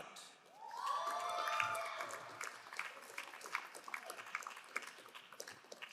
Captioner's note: crowd cheering and applauding